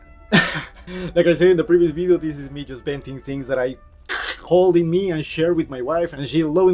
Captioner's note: laughs; glitches